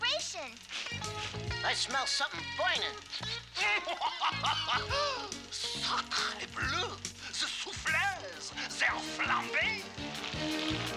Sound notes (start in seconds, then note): 3.1 laughing